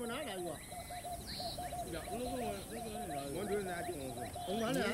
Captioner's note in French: Discussion en gourmantchéma